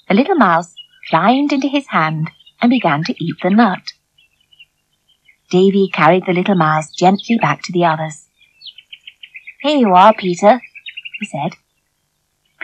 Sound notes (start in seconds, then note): none